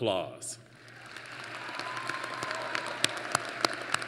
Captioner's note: applause